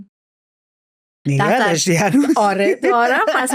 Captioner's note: laughs